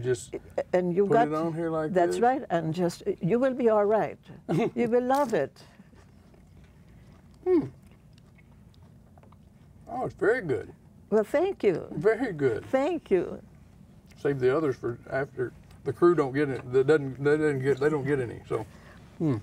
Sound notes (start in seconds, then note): 5.9 chewing